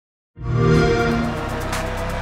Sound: Xbox sound

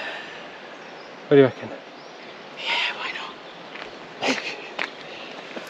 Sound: laughter

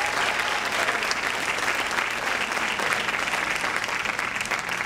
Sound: audience clapping

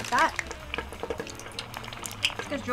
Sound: oil crackling

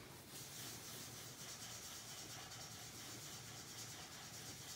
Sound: marker scratching

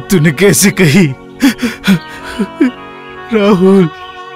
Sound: sobbing

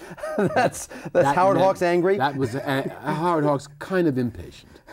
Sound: laughs

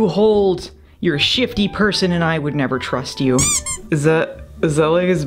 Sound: squeak

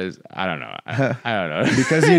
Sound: laughs

